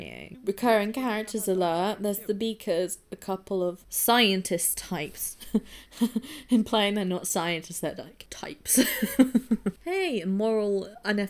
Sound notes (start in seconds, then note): 5.2 laughs